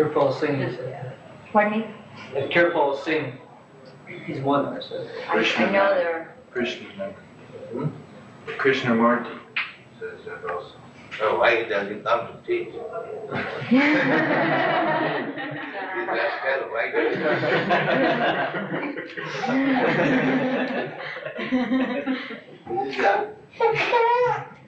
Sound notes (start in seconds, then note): 16.9 laughter